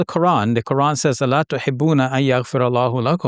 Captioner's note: speaks in foreign language